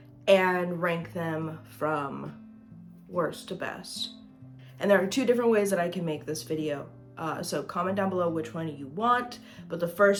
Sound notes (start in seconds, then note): none